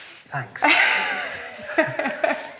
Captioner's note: laughing